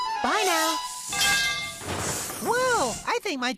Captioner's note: clanging